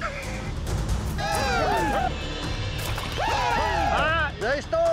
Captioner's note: all cheering; laughs